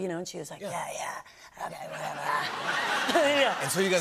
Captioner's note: laughter